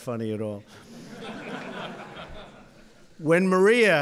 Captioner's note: laughter